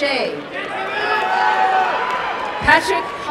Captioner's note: applause and cheering